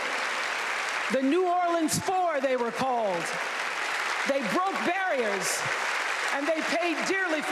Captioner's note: applause